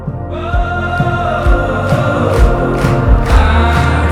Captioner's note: audience clapping